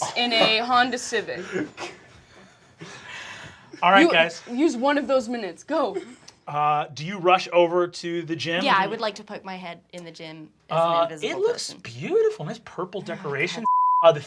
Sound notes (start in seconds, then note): 1.8 everyone laughing